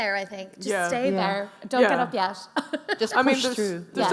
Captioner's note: laughs